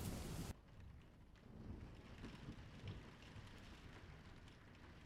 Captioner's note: rain pattering